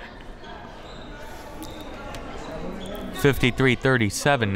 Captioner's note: shoes squeaking